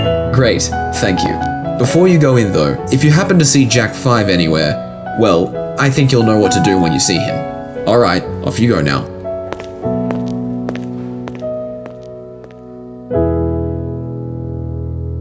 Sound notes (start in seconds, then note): 0.0 footsteps, piano flourishes, twinkle sound; 9.4 fading footsteps; 13.1 piano music finishes